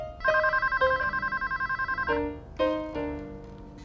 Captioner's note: telephone ringing